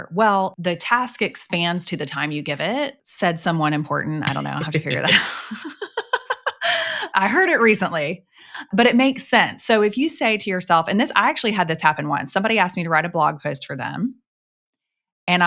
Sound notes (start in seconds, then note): 4.4 laughing; 4.8 chuckles